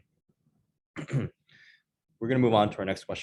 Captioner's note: clears throat